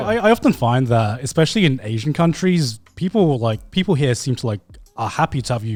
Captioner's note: none